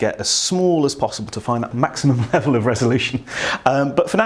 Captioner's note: laughs